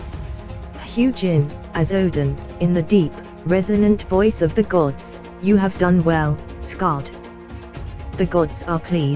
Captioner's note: in the deep, resonant voice of the gods